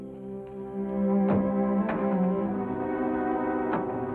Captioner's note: sentimental music; car door closes; sentimental music; car engine rumbles; sentimental music